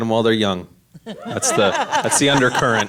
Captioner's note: all laugh